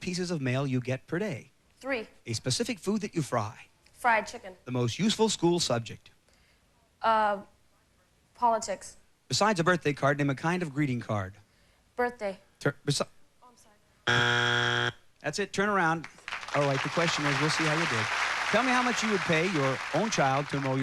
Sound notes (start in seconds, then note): 14.0 buzzing